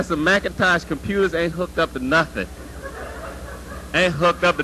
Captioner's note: laughter